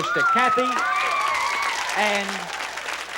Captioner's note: audience applause and screams